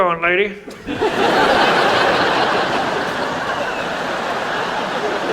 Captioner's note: audience laughs